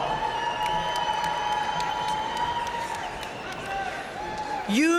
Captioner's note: audience cheering and applauding